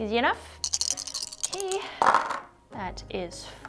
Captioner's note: dice clunking